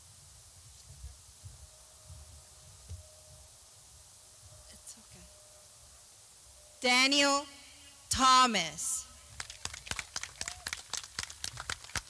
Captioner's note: clapping